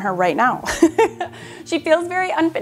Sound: laughs

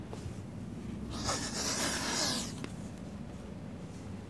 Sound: sniffing

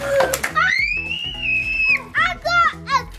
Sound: screaming

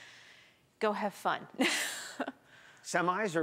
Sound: chuckles

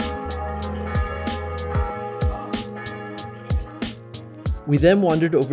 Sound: bells ringing

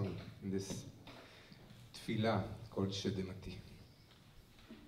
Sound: non-english

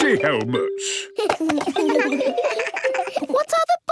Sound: giggles

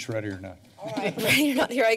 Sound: laughs

